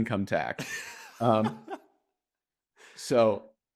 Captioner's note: laughs